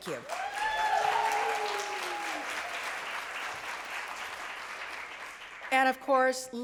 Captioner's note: applause and cheering